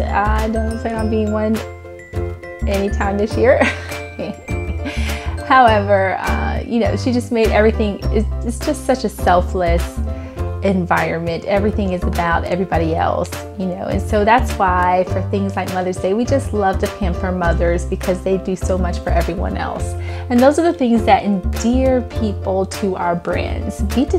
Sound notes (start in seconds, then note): 3.6 laughs